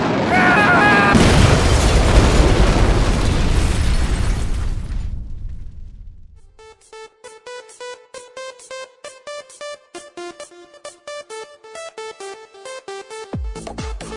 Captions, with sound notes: AAAAAAHHHH! *explosion*